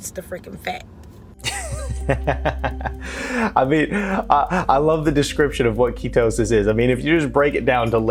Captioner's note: laugh